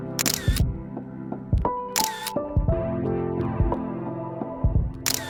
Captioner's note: dramatic music; camera shutter clicks; dramatic music